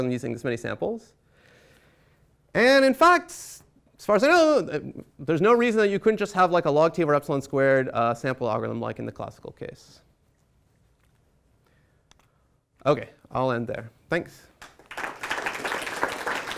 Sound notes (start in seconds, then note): 14.6 applause